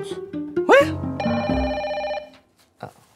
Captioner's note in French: sonnerie de téléphone